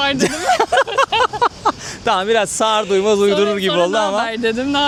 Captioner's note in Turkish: kahkaha